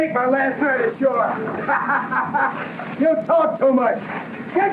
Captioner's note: laughing